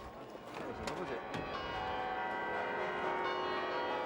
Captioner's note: bells ringing